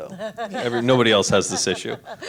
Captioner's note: laughs